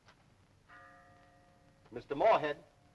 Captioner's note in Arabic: رنين الجرس